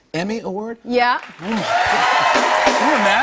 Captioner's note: cheers and applause